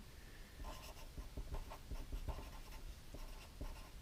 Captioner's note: pen scratching